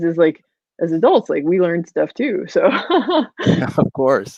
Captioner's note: laughs